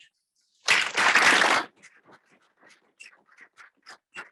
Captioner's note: audience clapping